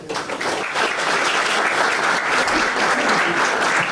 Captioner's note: audience applauds